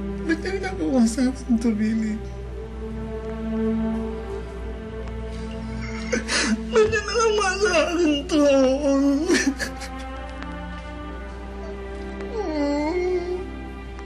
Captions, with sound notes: Why did he do this to me, Billy? [crying] Why did he do this to me?